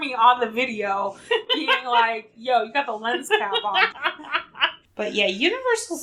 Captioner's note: laughs